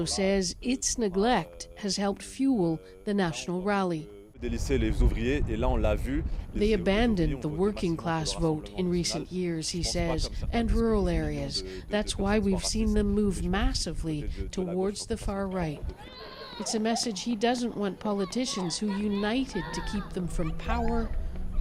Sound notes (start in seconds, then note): 7.2 speaking French